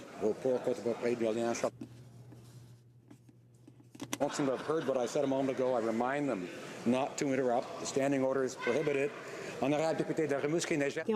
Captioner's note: speaking French